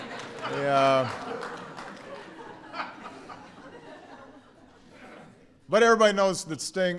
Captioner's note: laughter